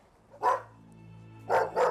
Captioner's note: dramatic music; dogs barking